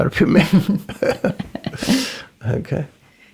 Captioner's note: both laughing